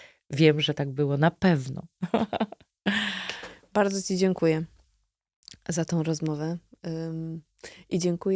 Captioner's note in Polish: śmiech